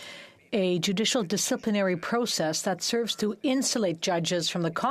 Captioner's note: speaking French